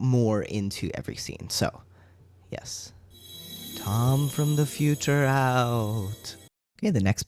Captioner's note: sparkly sounds